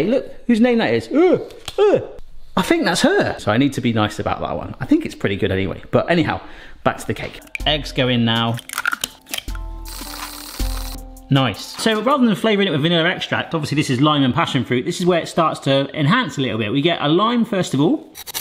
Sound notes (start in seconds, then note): 8.3 eggs cracking